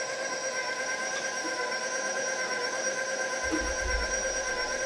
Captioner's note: mixer continues whirring